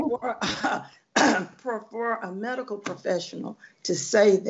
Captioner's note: clearing throat